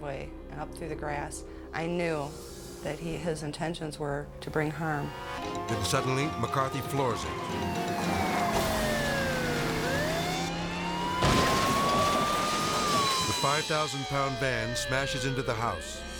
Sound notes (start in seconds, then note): 7.0 siren blaring; 10.9 van crashes